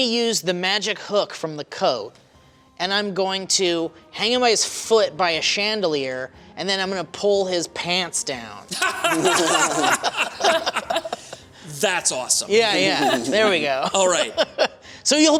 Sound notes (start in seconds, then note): 8.7 laughter